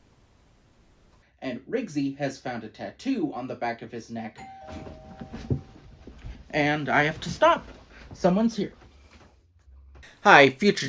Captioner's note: doorbell rings